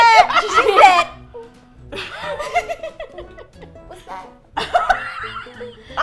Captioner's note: laughs; laugh; cracking up